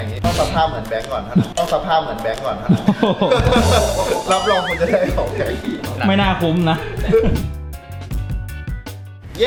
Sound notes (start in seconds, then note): 2.3 laughing; 2.7 awkwardly chuckles; 6.8 chuckles